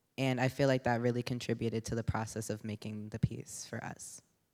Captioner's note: none